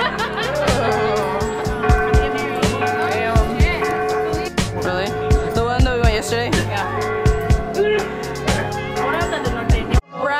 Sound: laughing; laughing

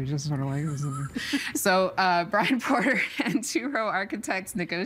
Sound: chuckling

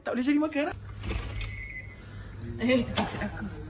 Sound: door unlocked

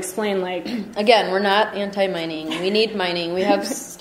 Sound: voiceover

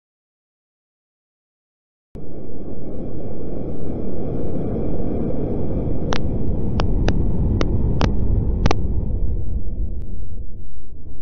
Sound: static sound

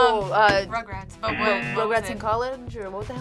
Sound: buzzer

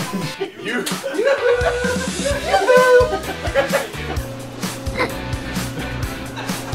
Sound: laughing

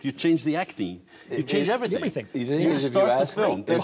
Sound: laughs

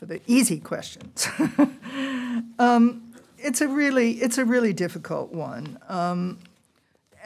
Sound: laughter

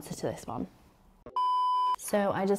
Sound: screen beeping

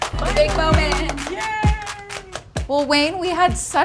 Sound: claps and cheers

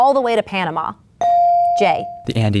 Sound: bell dinging

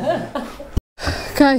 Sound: laughing

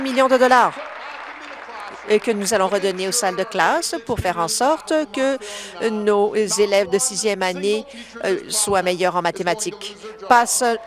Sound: applause

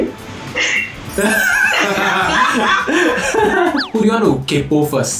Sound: laughs

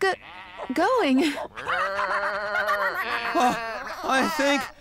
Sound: barking; bleating; panting

